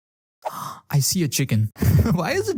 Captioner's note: gasp